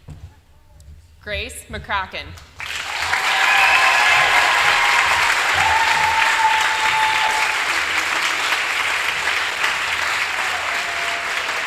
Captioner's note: applause